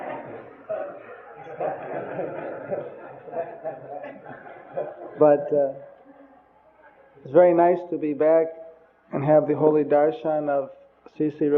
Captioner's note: devotees laugh